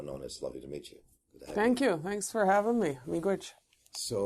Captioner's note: native Language